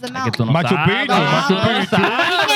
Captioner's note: speaking In Foreign Language